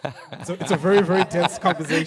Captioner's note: participants laugh